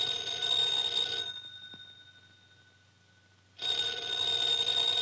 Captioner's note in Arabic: رنين